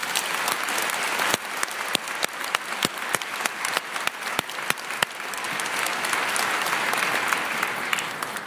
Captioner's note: applause